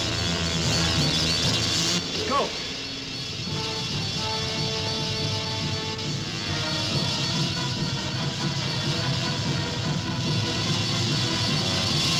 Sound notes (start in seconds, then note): 0.1 menacing orchestral music; 0.1 wasps buzzing; 6.5 tense orchestral music; 6.5 wasps buzzing